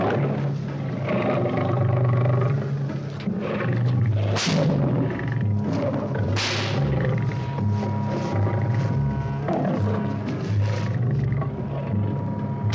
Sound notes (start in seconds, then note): 4.5 whip cracks; 8.4 suspenseful orchestral music